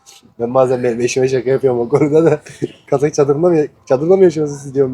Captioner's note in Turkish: kahkaha